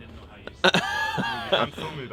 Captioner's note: laughs in surprise